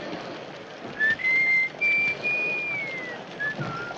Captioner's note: whistling